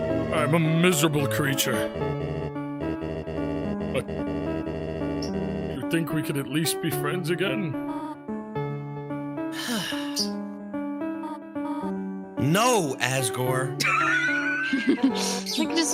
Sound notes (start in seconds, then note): 9.5 sighs; 13.8 laugh